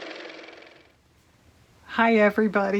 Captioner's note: car motor